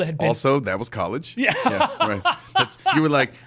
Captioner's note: laughing